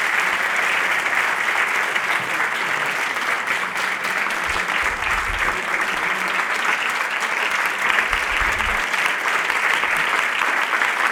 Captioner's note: applause